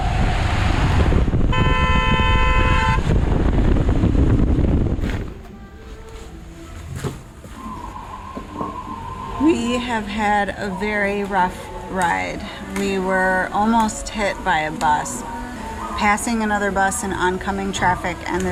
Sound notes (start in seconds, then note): 1.4 horn honking